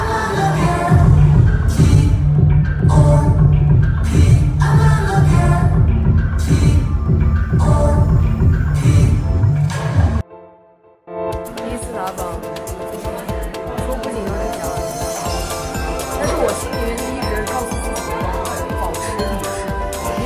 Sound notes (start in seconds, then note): 11.7 Mandarin